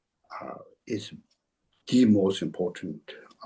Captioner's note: tibetan